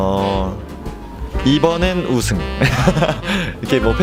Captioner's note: laughs